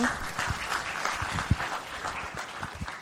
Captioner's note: applause